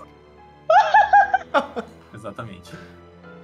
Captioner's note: laughter